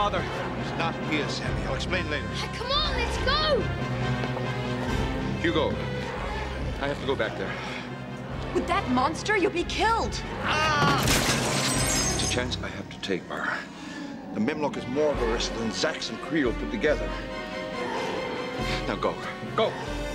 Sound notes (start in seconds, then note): 10.3 Kreel yelling; 10.9 glass breaking